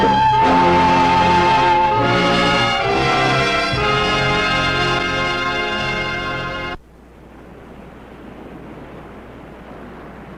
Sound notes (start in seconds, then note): 0.0 dramatic music; 7.0 waves crashing